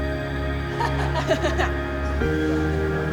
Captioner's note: laughs